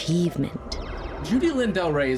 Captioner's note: flying saucer whooshing